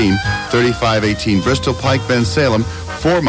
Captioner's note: in normal voice again